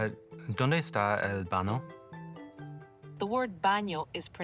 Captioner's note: speaking Spanish